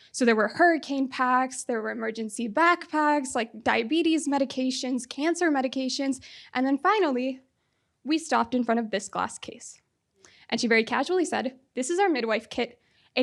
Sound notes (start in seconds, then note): none